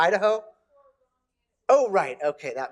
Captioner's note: someone speaking off microphone